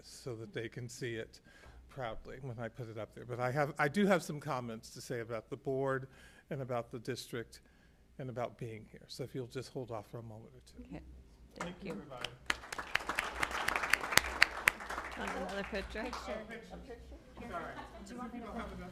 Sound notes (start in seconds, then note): 11.6 applause